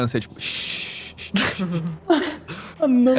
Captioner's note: laughs